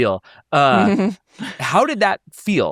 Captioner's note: chuckles